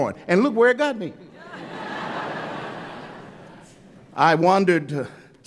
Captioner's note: laughter